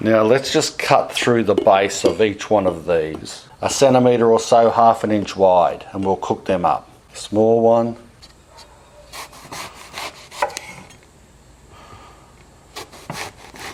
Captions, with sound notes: Now let's just cut through the base of each one of these a centimeter or so, half an inch wide and we'll cook them up. Small one (slicing)